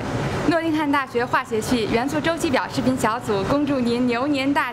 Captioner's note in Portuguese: em chinês